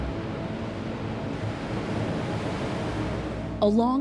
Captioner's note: waves crashing